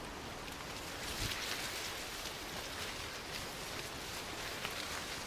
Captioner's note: leaves rustling